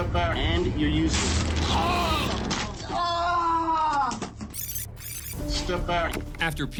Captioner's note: screaming